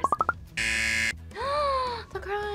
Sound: buzzer; gasps

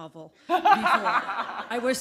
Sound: laughter

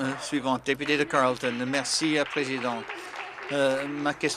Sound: applause

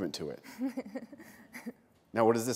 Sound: laughter

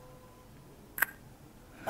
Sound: kiss

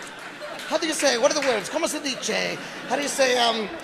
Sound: speaking foreign language

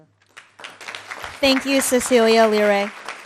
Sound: audience clapping

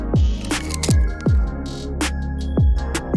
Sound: shutter clicks; upbeat music

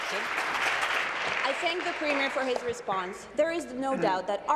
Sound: applause

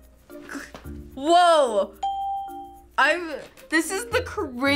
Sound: ding

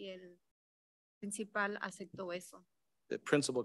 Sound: speaks in Spanish

